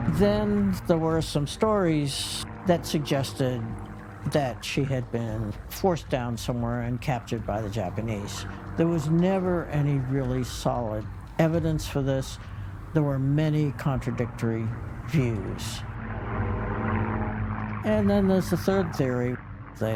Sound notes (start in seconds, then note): 16.1 plane propeller whirring; 17.1 suspenseful music